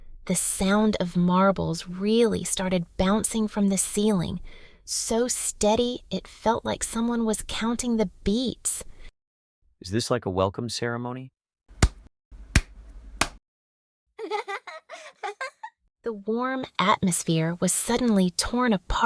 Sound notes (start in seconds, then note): 14.2 girl's laughting